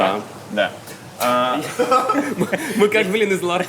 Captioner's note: both laugh